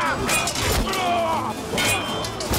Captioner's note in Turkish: Haykırıyorlar